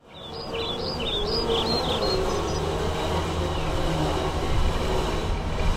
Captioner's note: birds chirping